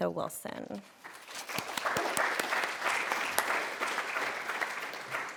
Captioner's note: applause